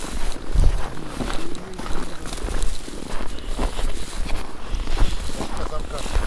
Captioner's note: crisp snow